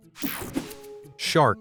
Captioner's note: slide whooshes